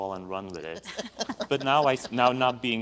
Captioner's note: laughs